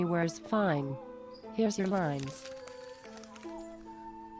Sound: paper noise

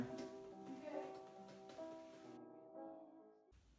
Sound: voice from off-camera

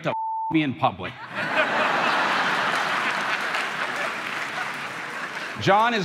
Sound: crowd laughing

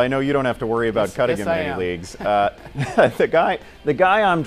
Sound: laugh

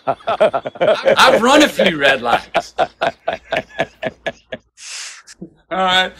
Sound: laughs; Sadhguru laughs

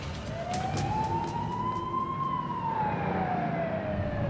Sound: sirens

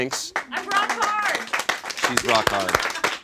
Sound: audience applauds

